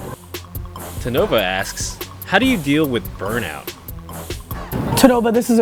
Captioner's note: voiceover